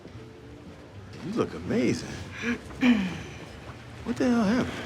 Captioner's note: clears throat